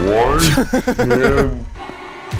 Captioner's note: laughs